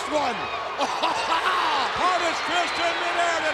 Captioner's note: commentators laughs